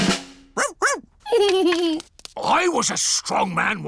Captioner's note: drumroll; giggles